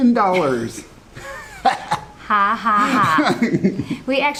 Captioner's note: laughs